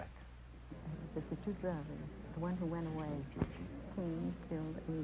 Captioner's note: whispering